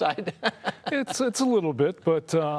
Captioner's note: laughing